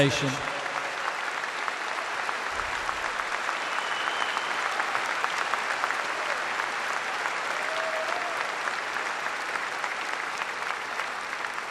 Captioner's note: applause